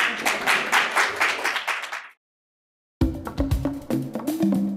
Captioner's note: applause; drum beat music